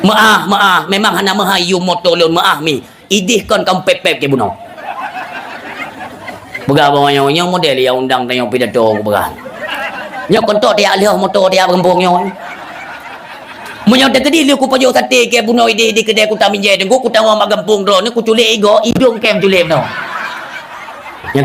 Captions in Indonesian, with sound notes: maaf memang maaf [tertawa] model undang motor [tertawa] kampung hidung